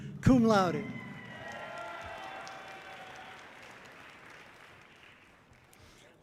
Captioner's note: audience cheering loudly